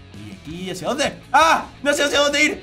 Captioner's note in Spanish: Grita